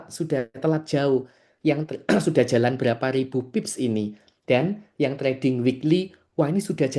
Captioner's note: berdehem